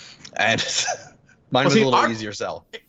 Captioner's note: laughing